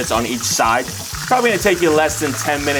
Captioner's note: oil continues to sizzle